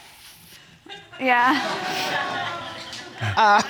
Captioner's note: audience laughing